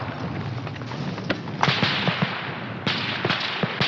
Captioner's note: gunfire